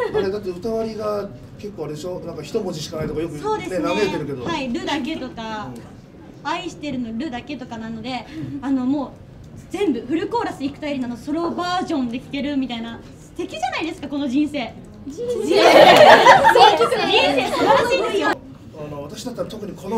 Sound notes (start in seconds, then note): 15.2 Laugh